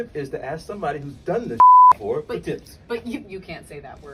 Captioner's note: beeps